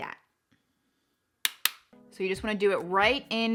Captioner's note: taps brush